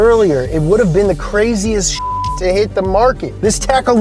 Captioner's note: beep